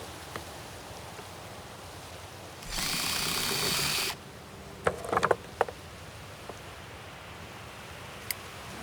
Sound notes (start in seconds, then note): 2.6 drill whirring